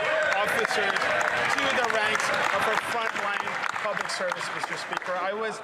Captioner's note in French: voix de l'interprète